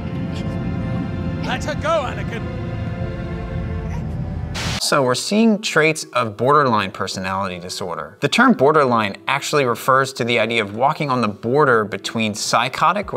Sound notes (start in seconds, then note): 3.8 Padme gags; 4.5 static hisses